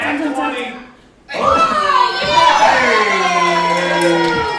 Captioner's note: cheering